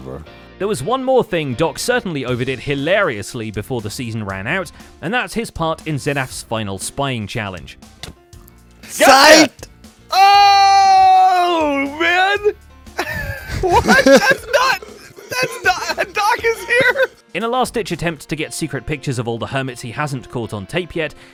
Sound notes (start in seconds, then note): 10.3 smack